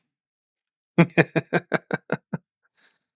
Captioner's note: laughing